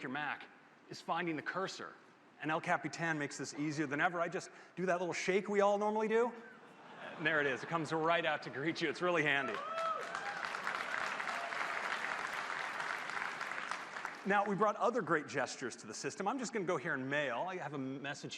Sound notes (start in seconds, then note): 10.9 applause